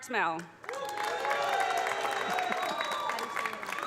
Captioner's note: audience applauding; audience cheering